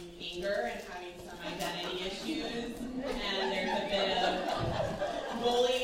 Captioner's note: laughter